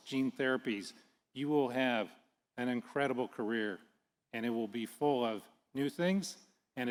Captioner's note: none